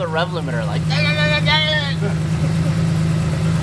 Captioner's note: mimics engine